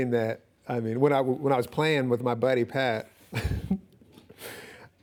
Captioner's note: chuckles